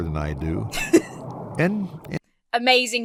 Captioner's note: laughs